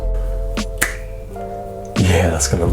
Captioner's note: snaps